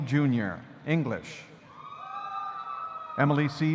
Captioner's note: audience cheering